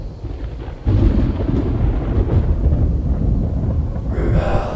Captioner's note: thunder crashing